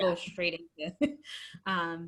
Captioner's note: laugh